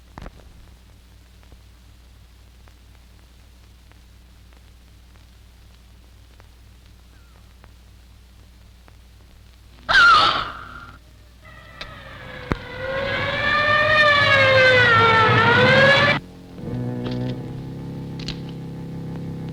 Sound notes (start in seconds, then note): 9.8 yelling; 11.4 sirens alarming; 16.7 ominous music